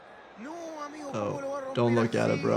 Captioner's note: stadium buzzing; commentator speaking in foreign language